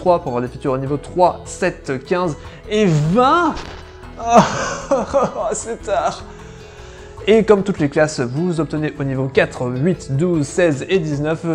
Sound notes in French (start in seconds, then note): 4.2 pleure